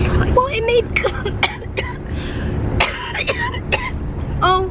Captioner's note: coughing